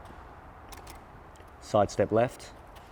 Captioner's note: clicking